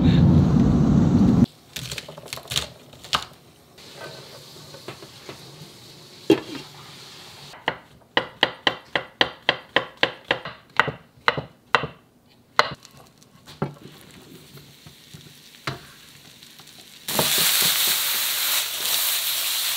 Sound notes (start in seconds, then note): 2.0 chopping; 4.1 sizzling; 8.2 chopping; 14.8 sizzling